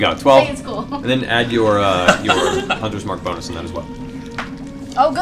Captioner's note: laughs